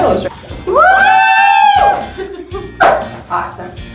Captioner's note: cheering